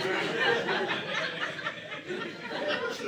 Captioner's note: audience laughing